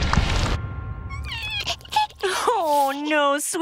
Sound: sobbing

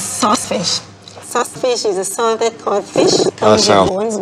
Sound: stammers

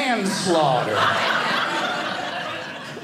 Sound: audience laughing

